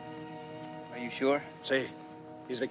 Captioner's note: Ramirez speaks Spanish